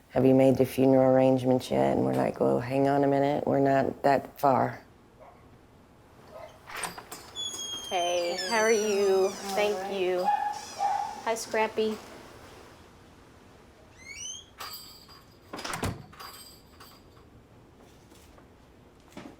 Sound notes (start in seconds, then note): 10.2 dog barks